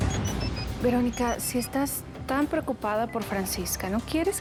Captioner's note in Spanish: Suena el celular